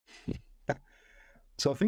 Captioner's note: laughing